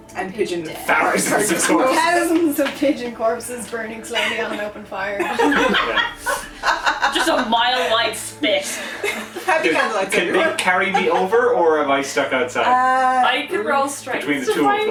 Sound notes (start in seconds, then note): 5.1 laughter